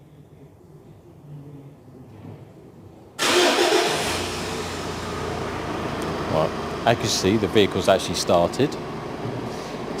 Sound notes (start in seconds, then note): 3.2 engine starts